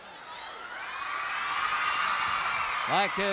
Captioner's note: crowd cheers